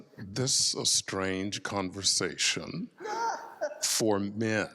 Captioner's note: laughs